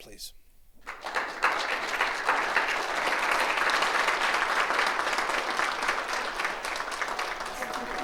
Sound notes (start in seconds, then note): 0.6 congregation claps